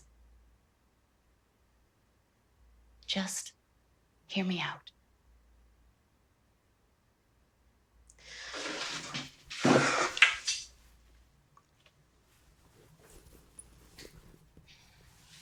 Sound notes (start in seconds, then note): 8.4 Ally sighs